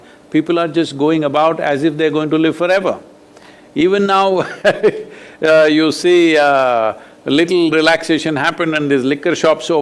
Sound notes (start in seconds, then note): 4.4 laughs